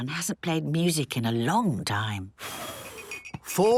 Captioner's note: blows